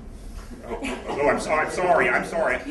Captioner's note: laughter